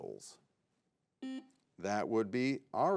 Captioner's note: button blips